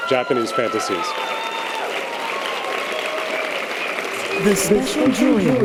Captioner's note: audience applause and cheers